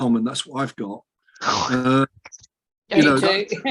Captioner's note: laughs